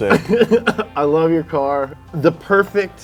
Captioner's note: laughs